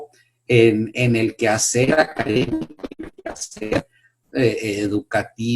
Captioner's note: audio error